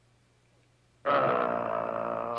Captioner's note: growling